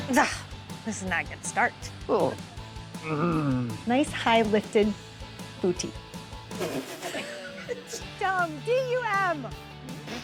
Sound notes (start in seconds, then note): 3.0 groans; 6.5 laughs